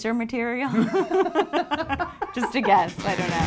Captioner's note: laughs